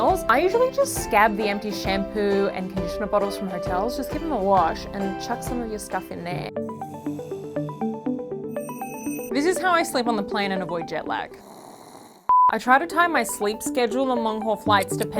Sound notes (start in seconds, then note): 6.7 upbeat music; 11.3 snores; 12.3 beep